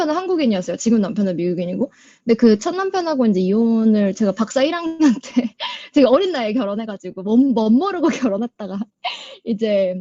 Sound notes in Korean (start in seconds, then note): 5.6 웃음